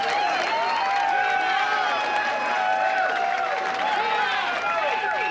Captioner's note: audience cheering loudly